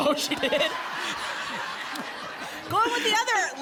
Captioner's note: laughter